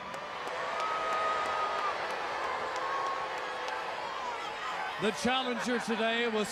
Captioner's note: applause